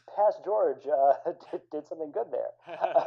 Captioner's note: laughter